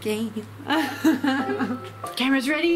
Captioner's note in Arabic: يضحك